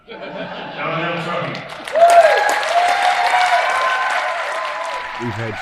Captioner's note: attendees laughing; attendees cheering